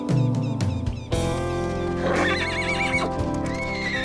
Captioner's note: neighing